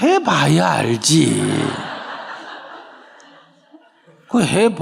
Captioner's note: audience Laughter